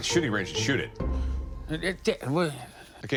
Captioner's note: stammers